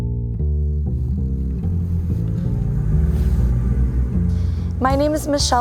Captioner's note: engine rumbling; jazz music